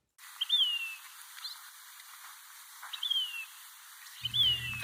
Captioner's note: birds chirping